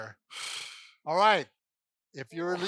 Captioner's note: blowing through lips